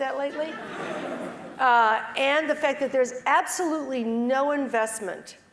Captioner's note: laughs